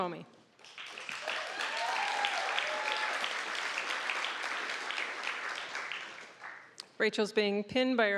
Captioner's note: applause, cheering